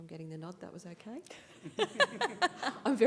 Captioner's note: laughing